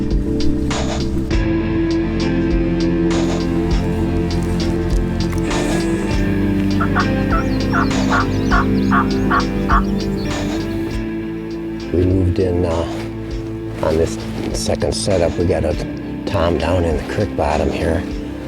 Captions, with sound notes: (peaceful music) (turkey call clucking) - We moved in on this second set up. We got a tom down in the crick bottom here.